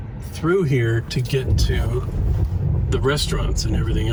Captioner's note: none